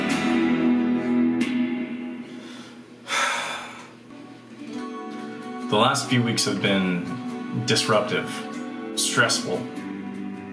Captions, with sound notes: *frustrated sigh* The last few weeks have been... disruptive... stressful...